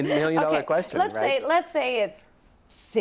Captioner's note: laughs